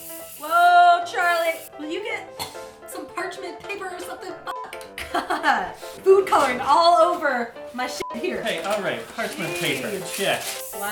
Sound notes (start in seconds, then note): 2.3 cough